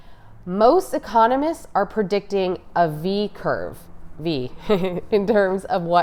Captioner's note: light chuckle